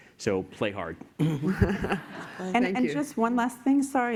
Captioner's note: laughter